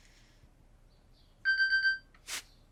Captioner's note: alarm